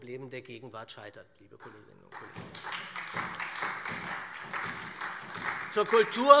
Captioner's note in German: Beifall SPD